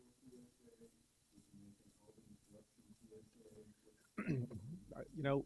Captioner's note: clears throat